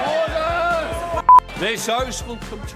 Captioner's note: beep